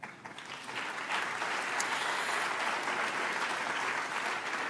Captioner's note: audience applauds